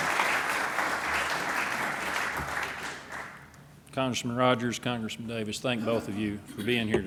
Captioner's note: applause